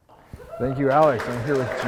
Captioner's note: audience applauding; audience cheering